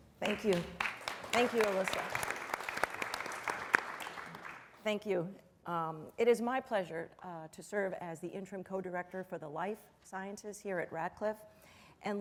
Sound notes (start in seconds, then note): 2.5 applause